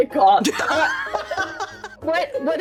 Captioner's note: laughing